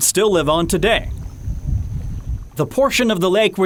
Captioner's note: wind blowing